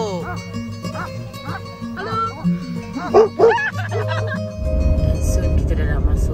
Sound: dog barking; laugh

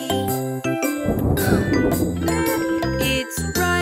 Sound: thunder booming

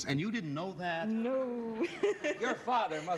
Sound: laughs

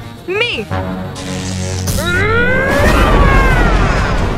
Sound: zapping; screaming

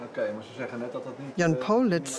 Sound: speaks in foreign language

